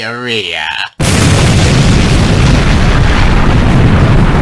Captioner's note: nuclear explosion